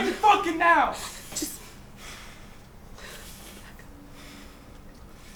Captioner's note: whimpering